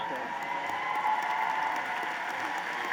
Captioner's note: applause